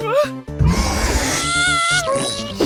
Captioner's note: clover screams